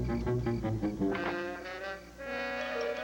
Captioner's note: door opens